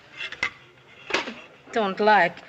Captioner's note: spits